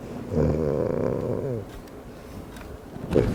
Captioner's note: A. Leboo snores